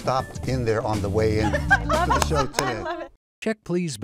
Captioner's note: laughs